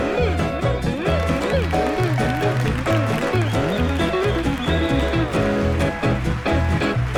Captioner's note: audience applauding; audience cheering